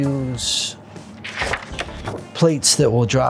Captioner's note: paper flips up